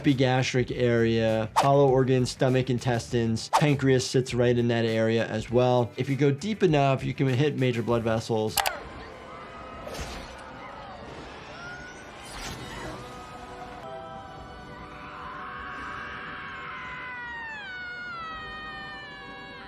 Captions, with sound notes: Epigastric area, hollow organs, stomach, intestines, pancreas sits right in that area as well. If you go deep enough, you can hit major blood vessels. (dramatic music) (audience shouting) (Maureen screaming)